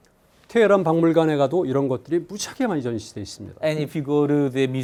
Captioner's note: speaking in Korean